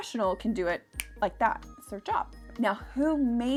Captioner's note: snaps